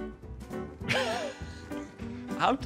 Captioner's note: laughs